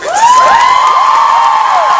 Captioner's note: audience cheering